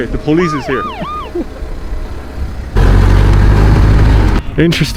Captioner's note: sirens blaring